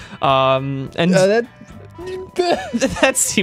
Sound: laughing

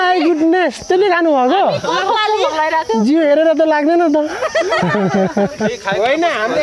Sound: laughing

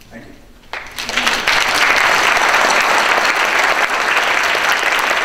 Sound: audience applause

